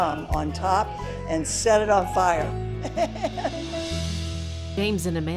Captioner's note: laughs